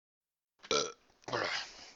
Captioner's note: burp